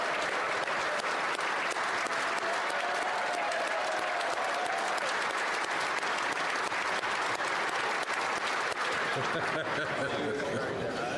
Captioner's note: applause